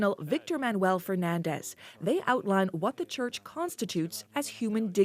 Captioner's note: speaking alternate language